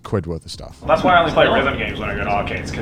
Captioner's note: helicopter buzzing